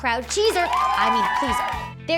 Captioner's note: applause